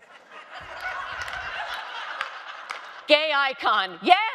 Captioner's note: audience laughing